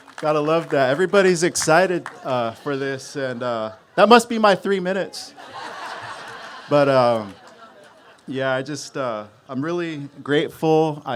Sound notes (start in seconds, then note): 0.0 cheers and applause; 5.2 laughter